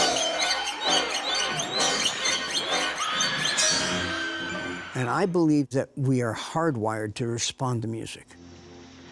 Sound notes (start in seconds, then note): 2.8 screaming